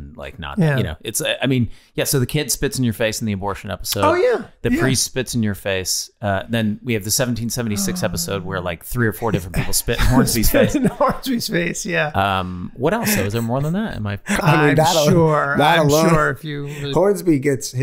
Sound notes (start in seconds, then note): 9.2 Charlie laughing